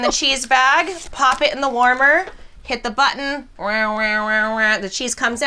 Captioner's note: imitates machine